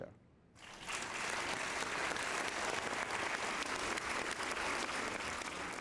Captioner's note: applause